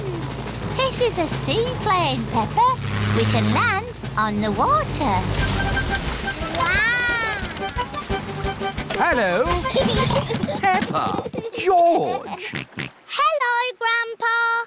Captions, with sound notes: This is a seaplane, Peppa. We can land on the water. Wow! -Hello! -(CHILDREN GIGGLING) -Peppa! George! -Hello, Grandpa!